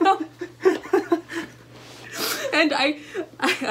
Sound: laughter

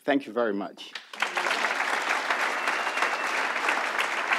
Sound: audience applauds

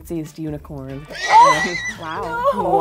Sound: violent neighing

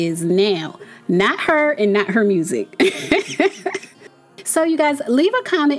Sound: laughs

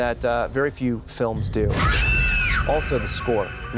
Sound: screams

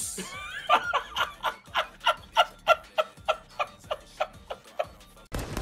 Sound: laughs

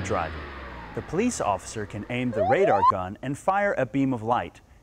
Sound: siren wailing

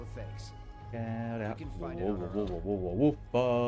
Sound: humming

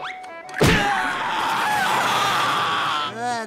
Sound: screaming

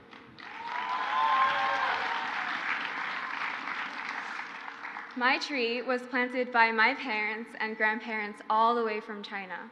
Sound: crowd applauds

